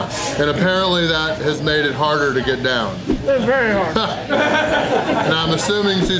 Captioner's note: crowd laughter